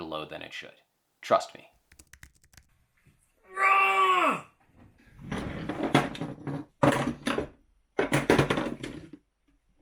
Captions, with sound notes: load than it should. Trust me. [typing] [frustrated scream] [drawer opening]